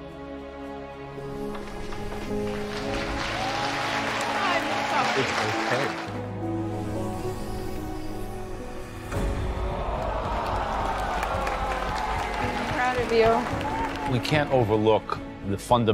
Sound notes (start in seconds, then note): 1.4 applause; 9.5 crowd groans